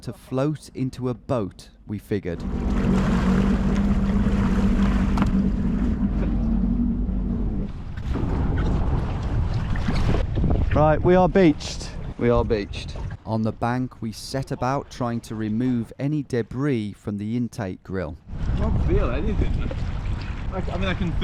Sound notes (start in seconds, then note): 3.5 waves crashing